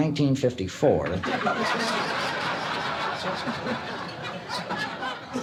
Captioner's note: audience laughs